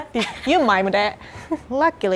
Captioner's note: laughing